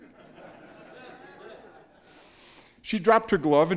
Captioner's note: audience laughing